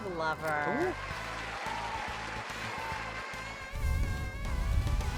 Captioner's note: audience applauds; saxophone jazz